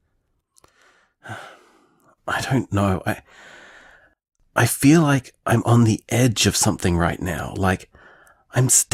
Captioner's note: sigh